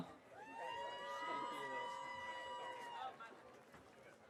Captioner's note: audience cheering